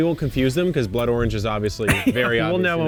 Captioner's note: laughs